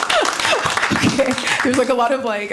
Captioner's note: applause